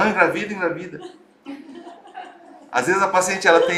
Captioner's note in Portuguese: risos